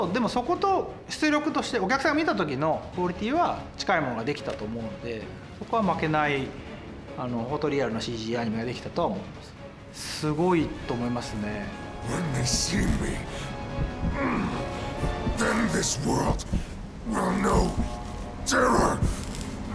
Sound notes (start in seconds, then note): 12.0 in English